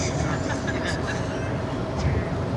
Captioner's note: laughter